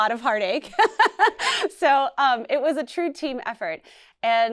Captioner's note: laughs